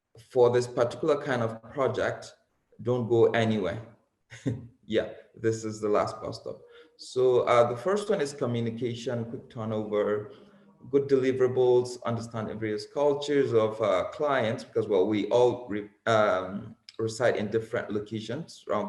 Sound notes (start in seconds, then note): 4.3 chuckles